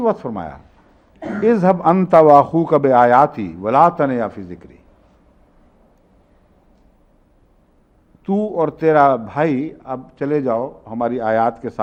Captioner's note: Arabic